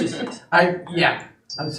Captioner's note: laughing